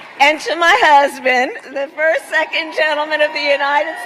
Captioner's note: applause